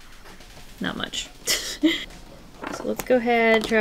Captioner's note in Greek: Γέλια